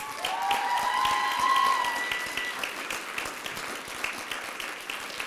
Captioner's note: applause and cheering